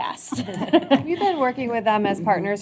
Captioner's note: laughter